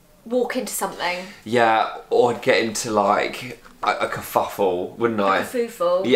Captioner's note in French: prononce mal